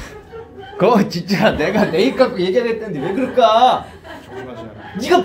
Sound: hahahahahahahahahahahahahaha

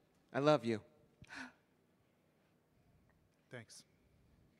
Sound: sighs

